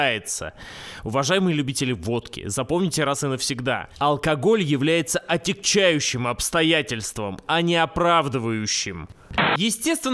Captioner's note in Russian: помехи